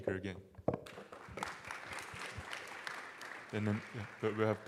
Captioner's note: applause